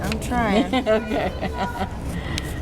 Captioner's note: laughs